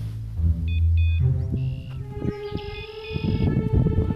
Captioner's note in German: Kragen Signaltöne; Geschwätz